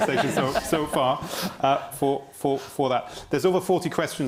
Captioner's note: panel laughing